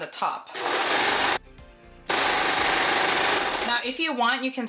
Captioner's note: sewing machine whirring